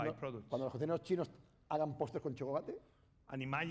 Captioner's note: speaking spanish